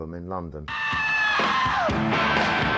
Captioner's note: yelling